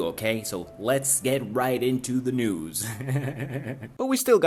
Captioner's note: hehehehehe